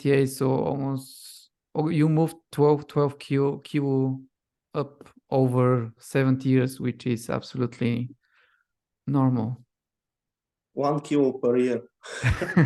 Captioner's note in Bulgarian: Смях